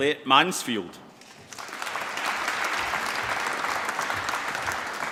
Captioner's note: applause